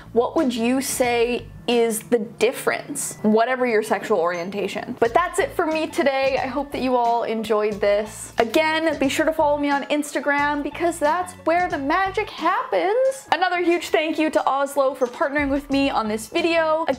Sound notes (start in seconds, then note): none